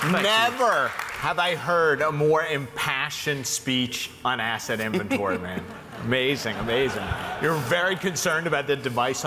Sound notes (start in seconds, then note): 4.8 laughs